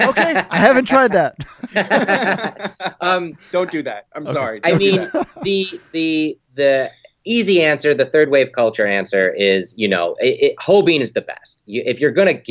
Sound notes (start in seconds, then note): 1.3 laughing; 1.4 laughing hysterically